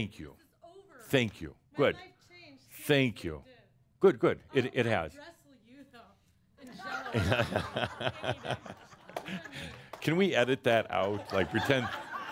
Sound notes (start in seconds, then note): 11.2 laughter